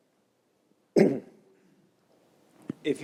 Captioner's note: cough